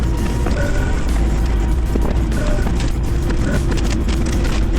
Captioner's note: engine revving